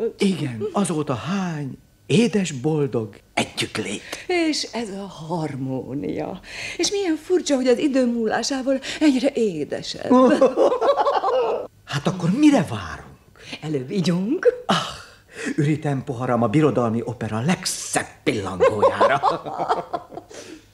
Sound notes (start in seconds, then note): 10.1 laughs